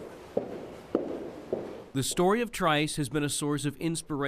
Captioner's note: footsteps